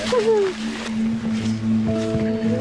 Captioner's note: laughing